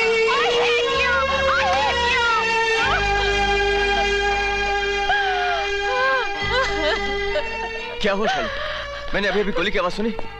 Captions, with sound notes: I hate you. I hate you. (Crying) What happened, Shalu? I just heard a bullet shot.